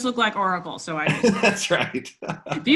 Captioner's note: laughs